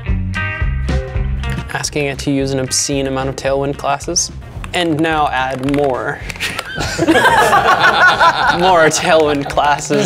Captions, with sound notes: Asking it to use an obscene amount of Tailwind classes. And now add more. (all laughing) More Tailwind classes.